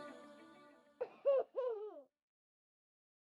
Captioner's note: baby laughs